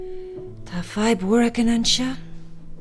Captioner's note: in irish